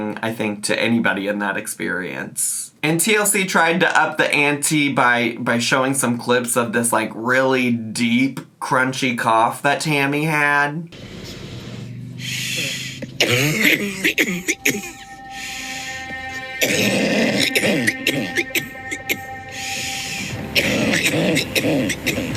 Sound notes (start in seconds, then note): 11.0 motor running; 12.3 deep coughing; 17.2 deep coughing continues; 17.2 dramatic music